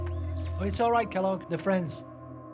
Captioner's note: Kellogg's neck whirring